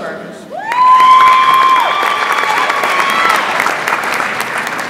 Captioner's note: audience applauds